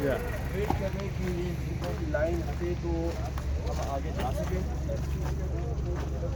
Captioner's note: men talking in foreign language